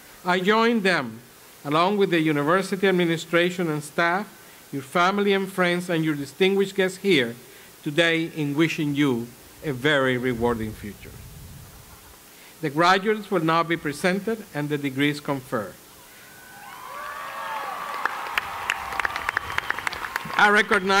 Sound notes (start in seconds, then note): 16.6 applause